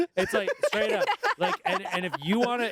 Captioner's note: everyone laughs